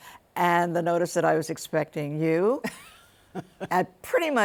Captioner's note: laughs